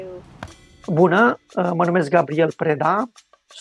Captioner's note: speaking in Romanian